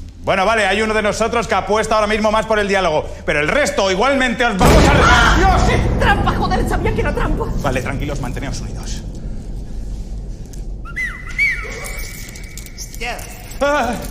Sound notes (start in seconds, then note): 10.7 whistles